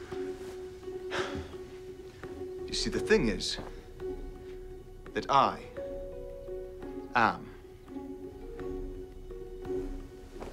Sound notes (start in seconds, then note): 1.1 Nicolas sighs